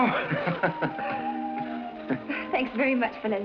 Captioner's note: laughs